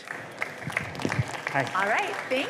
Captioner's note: applause